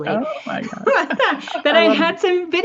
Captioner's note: laughs